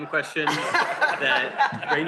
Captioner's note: laughter